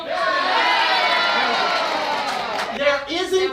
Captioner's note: audience laughs; audience cheers